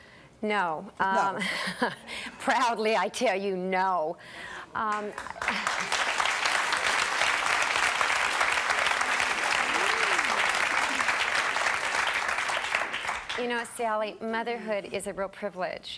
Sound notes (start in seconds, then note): 0.7 laughs; 4.7 clapping